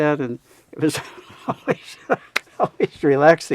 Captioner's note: laughing